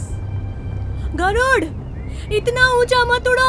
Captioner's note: hissss; worried